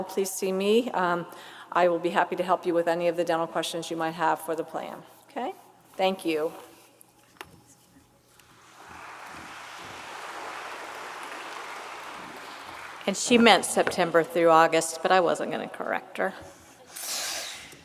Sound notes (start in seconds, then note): 8.5 audience applauds